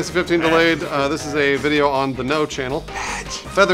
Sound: loud whisper

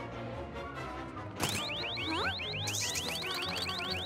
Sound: alarm starts beeping

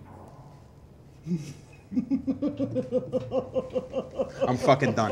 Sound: laughter

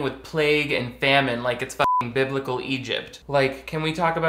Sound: beep

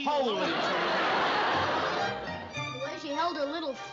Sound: laughter

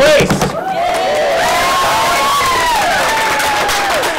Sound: cheers

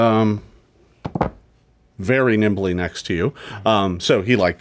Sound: dice clatter

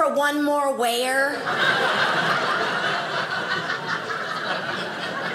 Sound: audience laughing

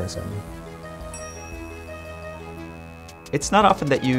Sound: bell dings

